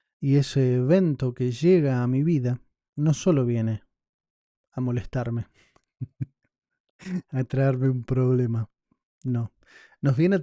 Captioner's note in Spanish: risas